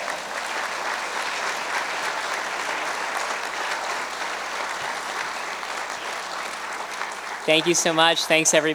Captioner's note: cheers and applause